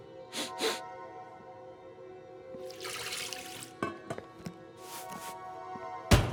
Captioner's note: chef sniffs; eerie music